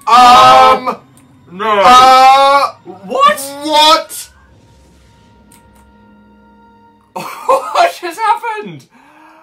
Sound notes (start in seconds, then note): 7.2 confused laughter